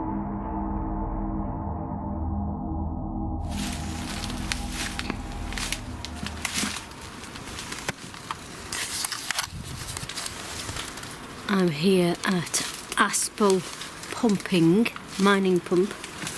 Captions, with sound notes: (leaves crunching) - I'm here at Aspull pumping, mining pump.